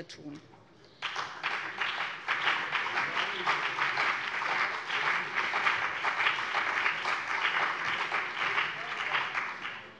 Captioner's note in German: Beifall BÜNDNIS 90/DIE GRÜNEN und vereinzelt CDU